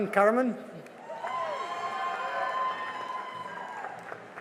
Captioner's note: cheering and applause